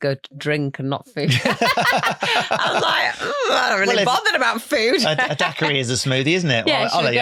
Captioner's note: laughing